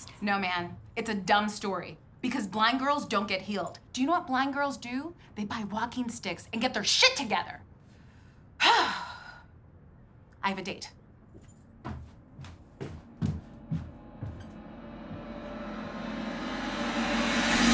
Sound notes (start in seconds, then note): 7.9 sharp exhale; 11.3 Kate's footsteps; 14.4 crescendo of cymbals